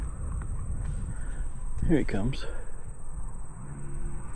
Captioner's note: sniffing